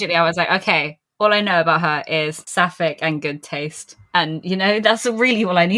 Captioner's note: laughing